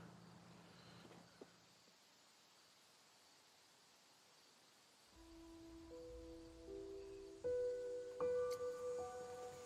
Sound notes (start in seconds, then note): 0.4 birds chirping; 5.1 melancholic music